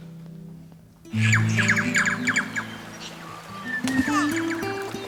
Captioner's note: birds chirping